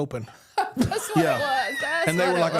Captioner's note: laughs